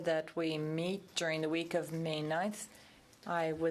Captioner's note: speaking french